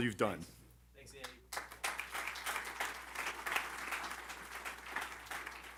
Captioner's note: applause